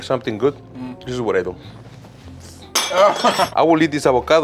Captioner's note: laughs